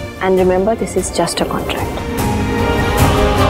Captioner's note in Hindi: none